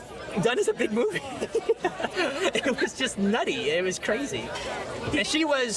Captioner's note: laughing